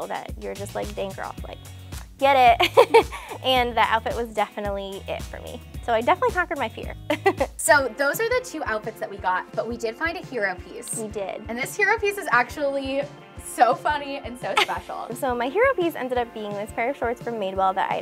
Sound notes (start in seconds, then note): 7.1 laughs